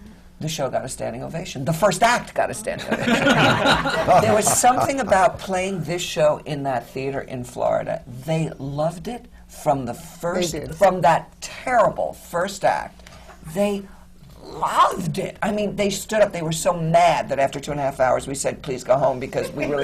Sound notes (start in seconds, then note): 2.8 laughter